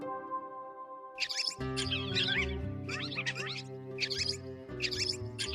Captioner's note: squeak squeak; squeak squeak squeak